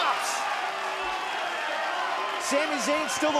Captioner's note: cheers & applause